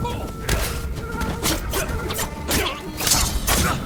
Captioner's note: gun firing